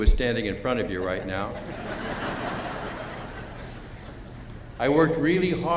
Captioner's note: chuckling